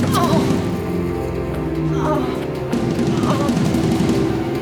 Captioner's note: Katie groaning